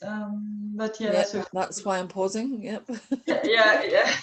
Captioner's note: laugh